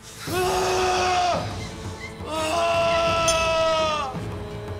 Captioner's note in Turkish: Acıyla bağırıyor